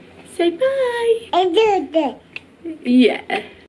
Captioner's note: baby babbling